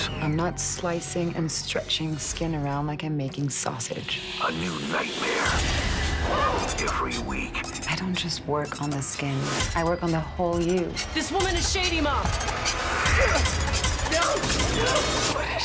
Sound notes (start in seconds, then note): 6.2 screams; 13.0 grunts